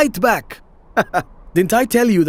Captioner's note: laughing